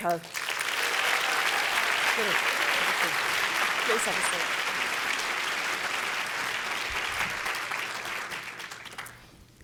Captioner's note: applause